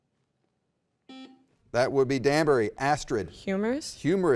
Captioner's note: button beeping